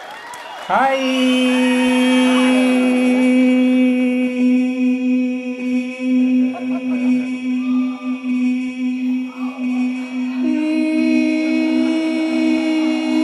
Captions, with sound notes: -Hi-i-i-i-i-i-i... [ Voice echoing ] ...i-i-i-i-i-i-i-i-i-i... E-e-e-e-e-e-e-e-e...